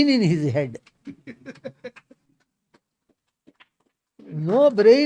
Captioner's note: laughs